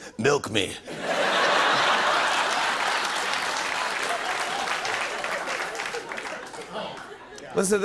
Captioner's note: laughter and applause